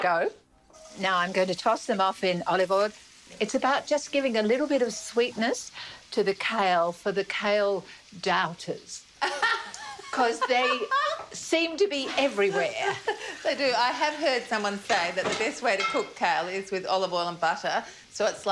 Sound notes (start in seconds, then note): 9.2 laughs